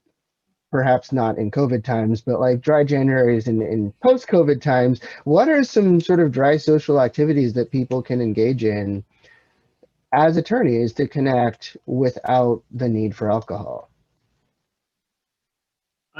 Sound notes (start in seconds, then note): none